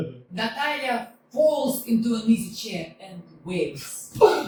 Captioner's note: Natalya Falls into an easy-chair and wails